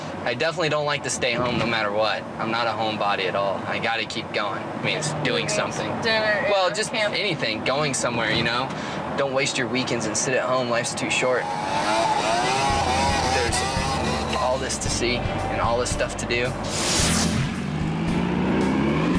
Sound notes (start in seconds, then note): 11.4 dirt bike engine revving